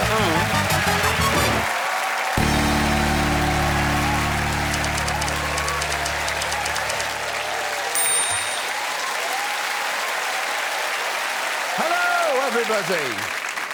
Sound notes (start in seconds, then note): 0.8 cheering and applause; 3.2 audience applauding; 4.7 typewriter keys clacking